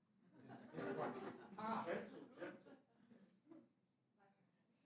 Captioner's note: audience laughs